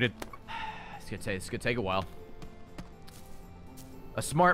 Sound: sighs

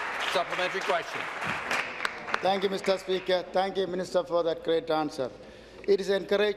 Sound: applause

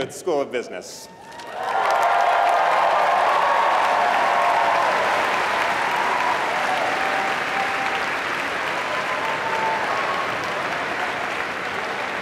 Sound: applause

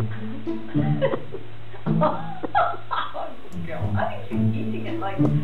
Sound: pet owners laugh

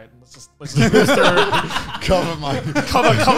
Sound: laughing

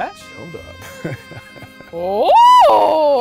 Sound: laughs

